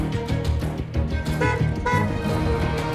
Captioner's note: honking